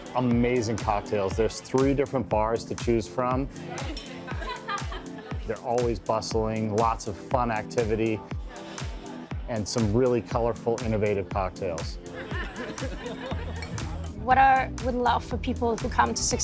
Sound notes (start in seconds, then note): 12.1 laughter